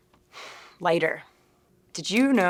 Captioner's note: sighing